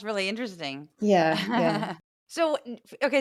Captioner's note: laugh